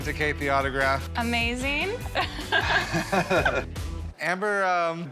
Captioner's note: laughs